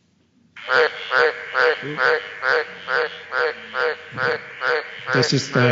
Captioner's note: sounds of frog call